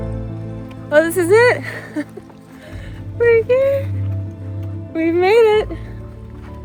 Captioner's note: chuckles